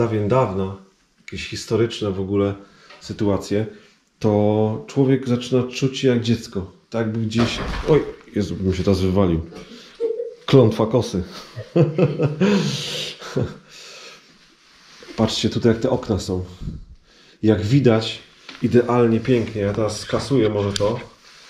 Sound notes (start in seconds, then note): 11.3 laughs